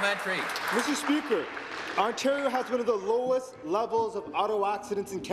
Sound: applause

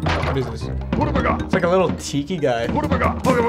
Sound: mutters

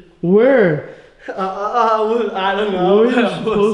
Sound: stuttering

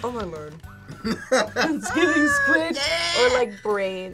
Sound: laughs

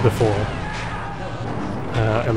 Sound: scientists scream

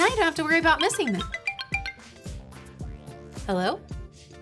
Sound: phone rings

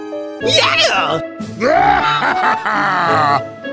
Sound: IWANTMONEY Laugh

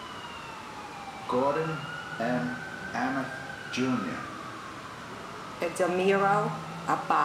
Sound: sirens

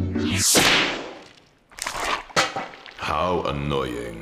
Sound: pie slaps

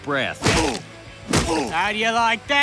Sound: feet stomping

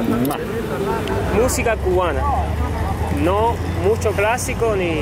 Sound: speaking Spanish

